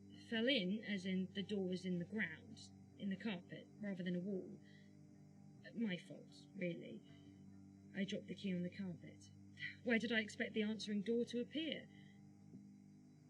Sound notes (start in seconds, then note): none